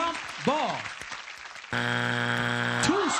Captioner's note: buzzer